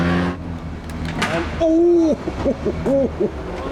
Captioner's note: clunk